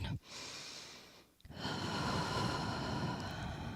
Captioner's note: breathes deeply